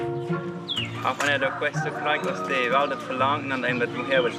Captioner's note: Spanish spoken audio